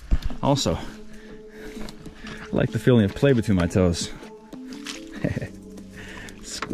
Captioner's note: chuckles